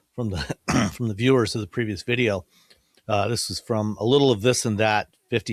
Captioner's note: clears throat